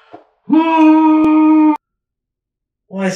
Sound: pillow scream

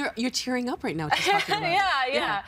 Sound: laughing

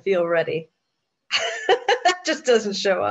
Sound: laughs

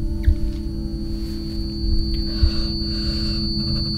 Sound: whirring

